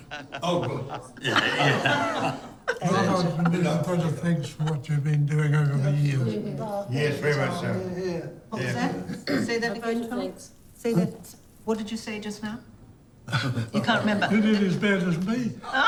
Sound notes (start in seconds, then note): 1.9 group chatter